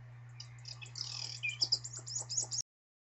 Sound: bird tweeting

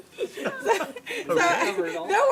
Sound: continues laughing; laughing; continues laughing

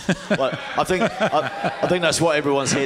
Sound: cheering

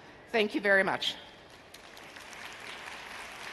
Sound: audience applauding

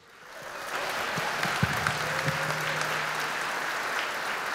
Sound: audience applauding

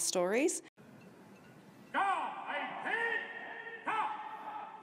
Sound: military sounds

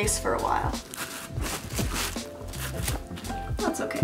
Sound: camera rustling

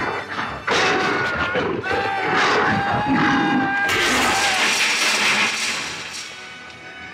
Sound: Donald growling; Peter screaming

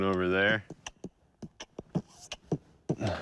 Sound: beatboxing continues

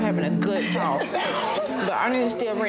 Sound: people laughing

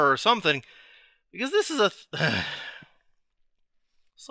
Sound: gasp

